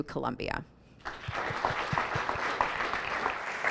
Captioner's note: audience applauding